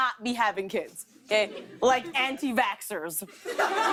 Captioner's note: laughter